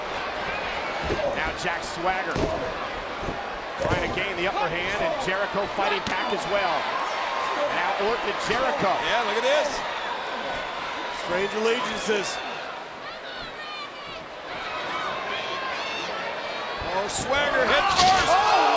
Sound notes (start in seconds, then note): 2.2 foot stomping